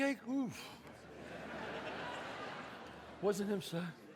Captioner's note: audience laughs